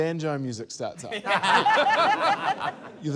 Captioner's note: laughter